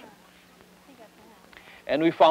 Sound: indiscriminate chatter

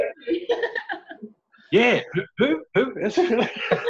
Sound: laughing

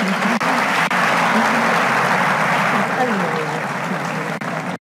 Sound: audience applauding

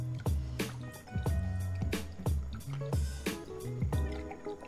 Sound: liquid splashing

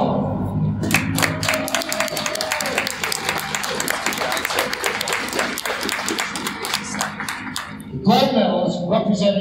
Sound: crowd applauds

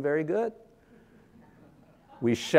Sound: audience laughing

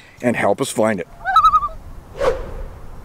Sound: loon call

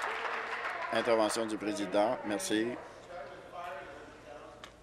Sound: applause

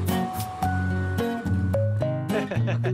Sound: laughter

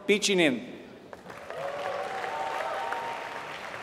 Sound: applause

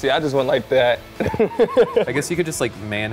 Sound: laughing

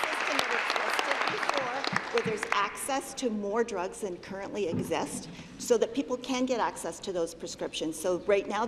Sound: applause

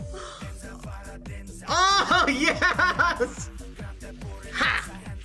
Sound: laughs

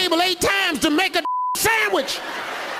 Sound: beeps

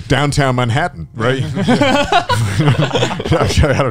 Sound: everyone laughs

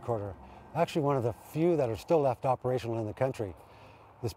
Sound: voiceover

